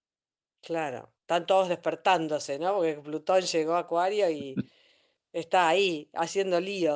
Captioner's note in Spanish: carraspeo